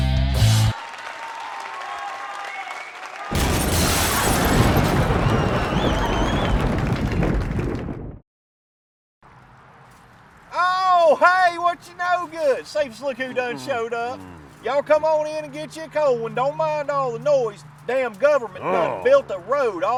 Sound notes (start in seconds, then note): 2.6 audience cheering; 3.3 glass shattering; 3.4 thunder cracking